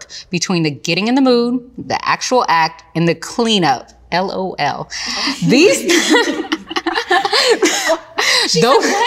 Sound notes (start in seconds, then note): 5.1 ladies laughing